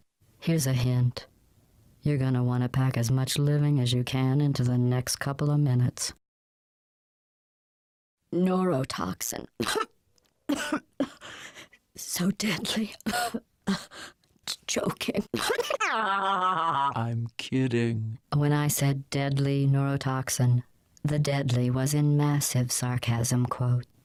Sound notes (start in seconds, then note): 10.5 cough; 15.3 laughter